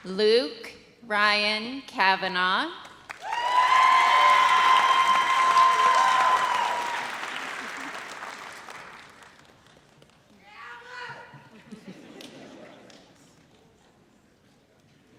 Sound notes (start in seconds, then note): 3.2 audience cheers; 10.5 audience member shouts; 11.5 audience laughs